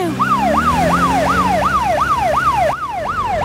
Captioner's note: siren